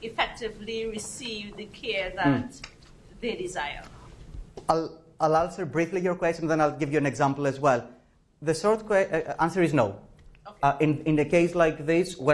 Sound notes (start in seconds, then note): 4.1 professor speaking